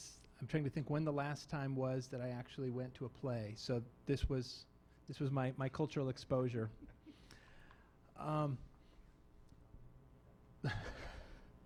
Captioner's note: laughing